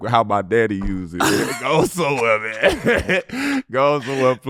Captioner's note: laughing